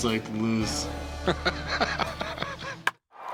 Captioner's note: laughing; bat cracks, crowd cheers